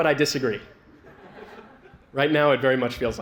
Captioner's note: laughter